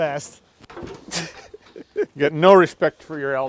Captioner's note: laughing